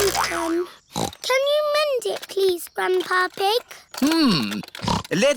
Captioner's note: snorts